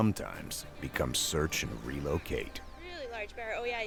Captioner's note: voiceover